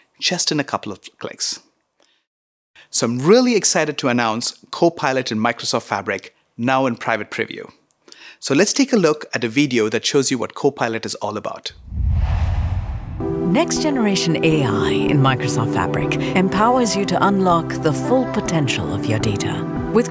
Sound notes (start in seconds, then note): 11.8 logo swooshes; 13.7 energetic music plays